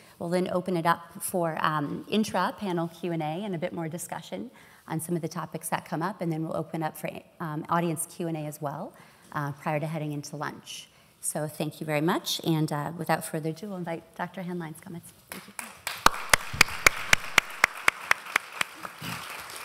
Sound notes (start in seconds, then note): 15.3 applause